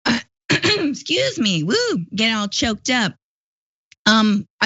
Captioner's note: cough